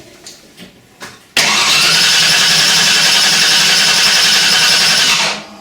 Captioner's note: car engine sputters